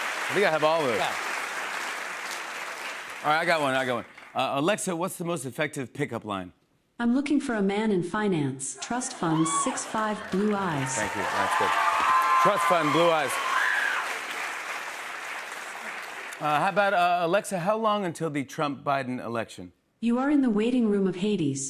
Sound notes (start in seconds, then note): 13.8 cheers and applause